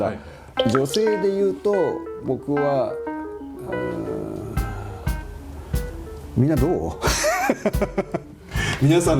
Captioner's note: hesitates